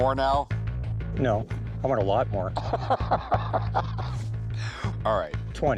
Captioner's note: laughs